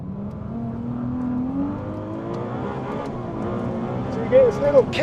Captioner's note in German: Motor brüllt